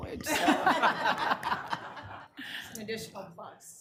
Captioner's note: room laughing